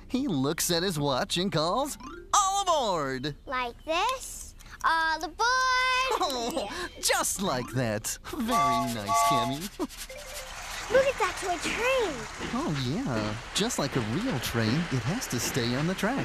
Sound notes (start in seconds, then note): 8.4 toot-Toot!